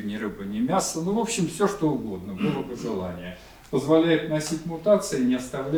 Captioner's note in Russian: откашливается